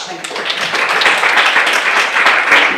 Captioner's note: audience applauds